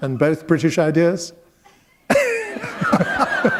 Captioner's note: laughter